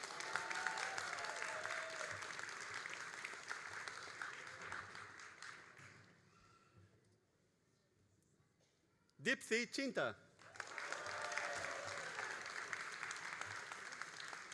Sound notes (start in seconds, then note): 0.0 all applauding and cheering; 10.4 all applauding